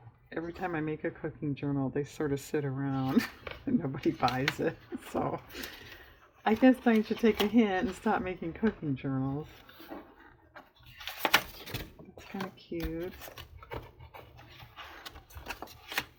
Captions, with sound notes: every time i make a cooking journal they sort of sit around and nobody buys it (laughs) so i guess i should take a hint and stop making cooking journals kind of cute